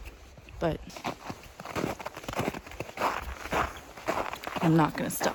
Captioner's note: snow crunches underfoot